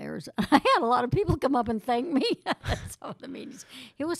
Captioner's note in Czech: Smích